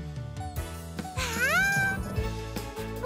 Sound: exclaims in joy

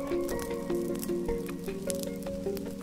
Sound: flames crackling

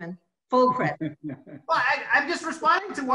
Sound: laughs

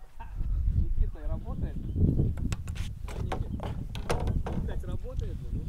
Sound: man speaking in foreign language

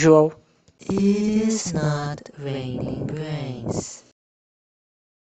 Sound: echoing

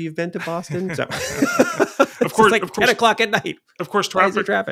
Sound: laughing

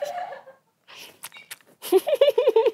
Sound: laughing; chewing

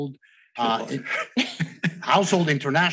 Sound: speakers chuckling

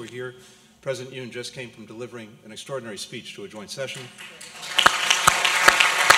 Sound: applause

